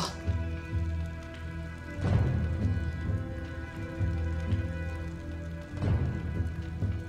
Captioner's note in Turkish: Ateş Çıtırtısı Sesleri